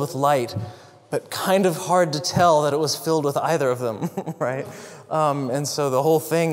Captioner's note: laugh